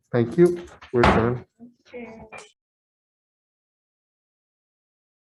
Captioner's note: gavel bangs